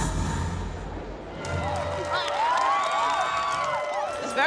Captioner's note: cheering and applause